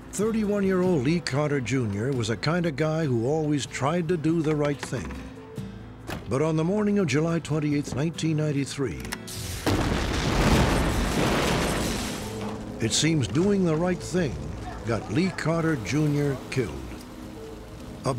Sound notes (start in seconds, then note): 9.4 explodes